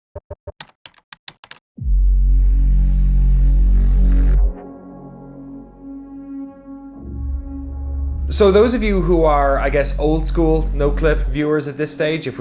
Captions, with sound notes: (keyboard clicking) (dramatic electronic tones) - So those of you who are I guess old school Noclip viewers at this stage,